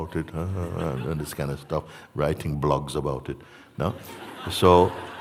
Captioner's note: laughter